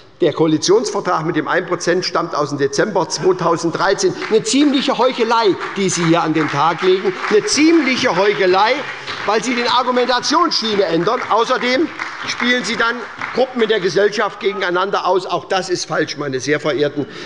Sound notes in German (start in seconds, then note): 6.9 Beifall bei der SPD - Zuruf von der SPD: Ja!